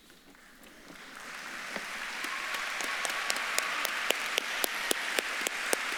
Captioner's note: audience claps and cheers